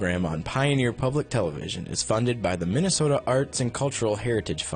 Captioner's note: voiceover